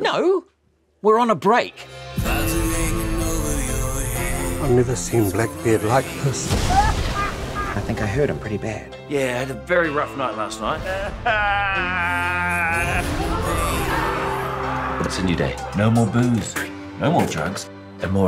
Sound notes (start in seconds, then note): 6.4 thunder crashes; 6.8 cackling; 10.8 sobs; 14.3 yelling